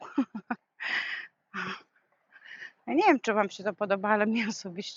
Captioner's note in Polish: wciągnięcie powietrza